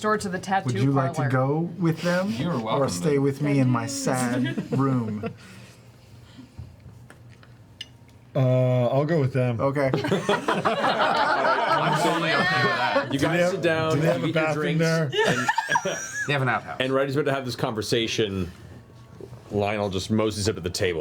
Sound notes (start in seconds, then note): 9.9 laughter